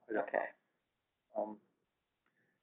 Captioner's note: voiceover